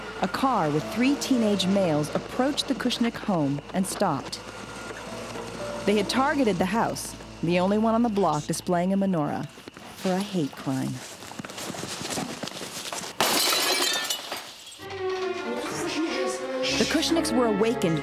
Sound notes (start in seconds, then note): 13.2 crash